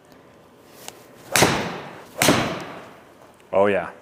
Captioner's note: club smacks ball repeatedly